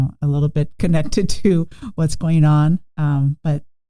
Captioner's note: chuckling